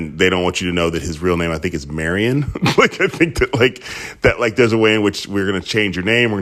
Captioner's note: laughter